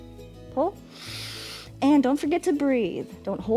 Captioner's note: inhales